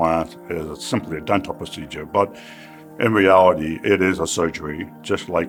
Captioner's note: sigh